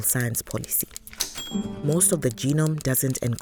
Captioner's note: a typewriter DINGS!